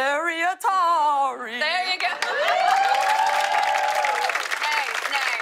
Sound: cheers and applause

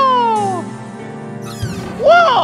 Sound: door creaking

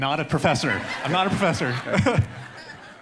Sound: audience laughing; laughs

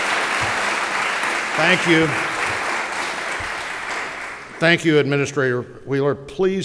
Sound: applause

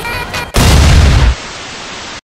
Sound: explosion sound effect

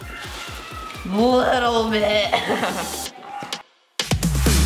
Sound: laughing

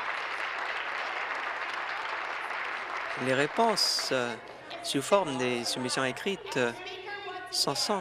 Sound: continued applause

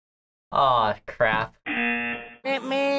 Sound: buzzer rings

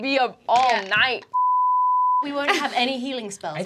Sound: beeping

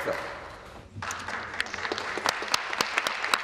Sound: applause

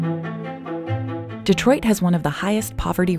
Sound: voiceover

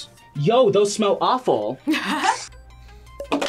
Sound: laughs

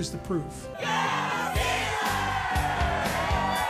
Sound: Crowd cheering: Yeahhhh, Steelers!

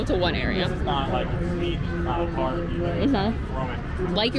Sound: faintly speaking

